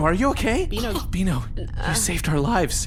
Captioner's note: Beano makes weak noises of distress